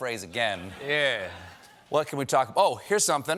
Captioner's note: laughter